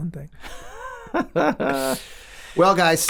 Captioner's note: laughs